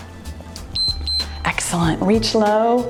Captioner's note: timer beeps